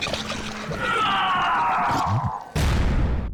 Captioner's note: gol yells